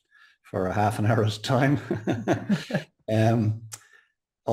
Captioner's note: chuckles